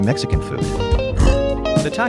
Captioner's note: kindly grunt